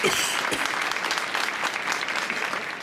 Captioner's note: audience applauds